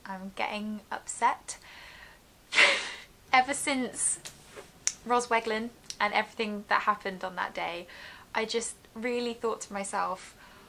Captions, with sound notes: I'm getting upset (laughs) Ever since ROSWEGLYN And everything that happened on that day I just really thought to myself